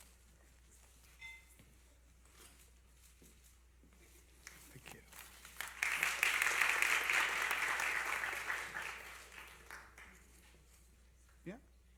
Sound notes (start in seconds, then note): 5.0 applause